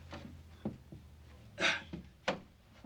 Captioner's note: gasping